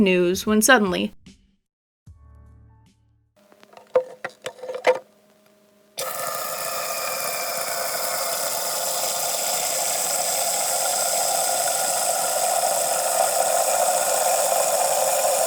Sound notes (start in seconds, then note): 6.0 water filling sounds intensify